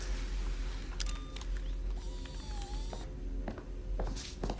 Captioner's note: camera beeping